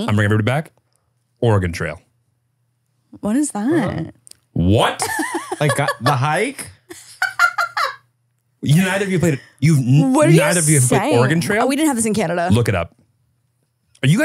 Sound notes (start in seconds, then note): 6.8 laughing